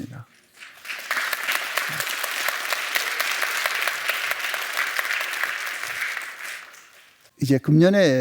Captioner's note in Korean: 박수